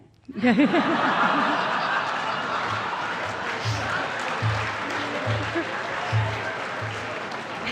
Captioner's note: laughter